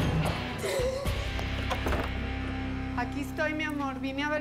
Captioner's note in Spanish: sollozos